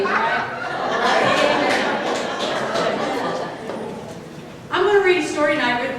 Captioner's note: audience laughter